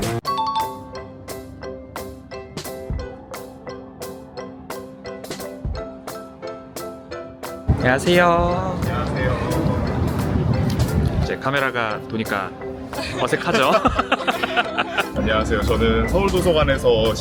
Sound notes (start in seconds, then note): 0.2 exciting music; 13.0 laughter